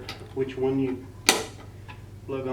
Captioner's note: click